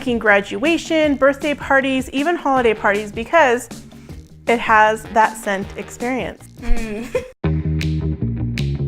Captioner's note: laugh